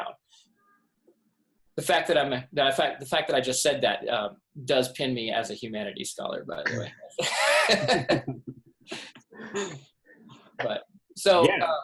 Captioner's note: laughs